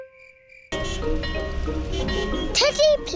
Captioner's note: car horns beeping